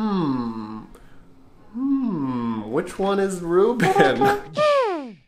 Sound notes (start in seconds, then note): 3.8 laughing